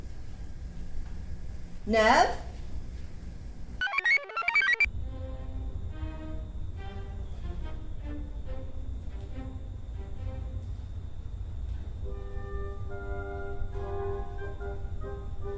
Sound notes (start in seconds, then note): 3.8 computer chirps; 5.0 commanding orchestral music